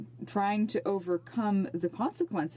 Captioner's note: speaking in French